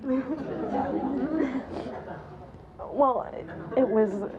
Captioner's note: audience laughs